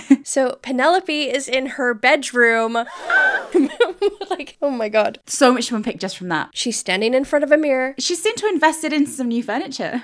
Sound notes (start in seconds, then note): 2.8 shocked gasp; 2.9 laughing